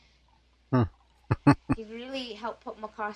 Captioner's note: chuckling